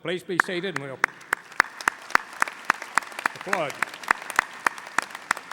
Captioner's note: audience applauding